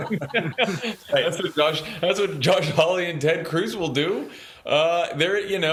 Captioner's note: laughter